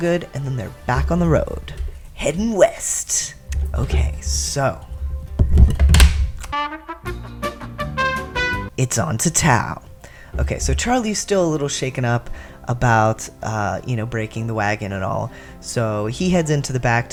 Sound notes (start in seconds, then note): 4.8 mic bump, clatter; 6.5 hold music